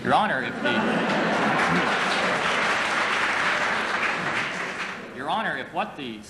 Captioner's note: applause